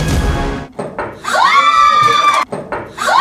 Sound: cheers

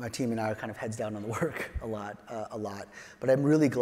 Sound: chuckles

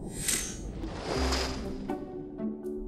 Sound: logo whooshes; water flowing; upbeat music

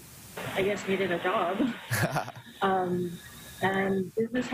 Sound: laughter

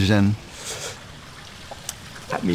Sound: staccato inhaling

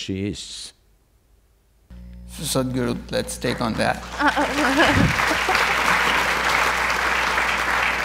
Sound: applause

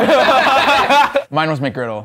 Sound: laughing

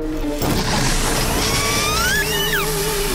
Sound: squeaking

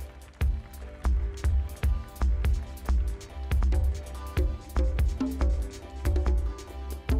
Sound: audience cheering; upbeat electronic music

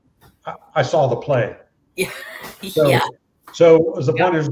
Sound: laughter

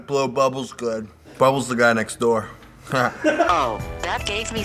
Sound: laughter off camera

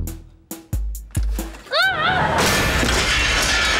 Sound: screaming

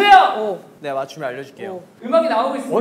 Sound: confident

